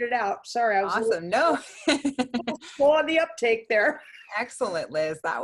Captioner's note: laughs